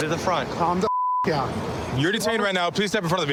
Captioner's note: beep